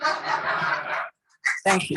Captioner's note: laughter; applause